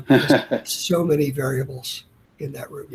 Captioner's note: laughs